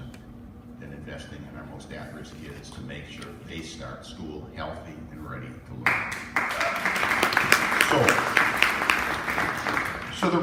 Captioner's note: applause